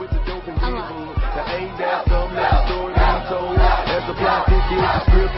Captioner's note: crowd chanting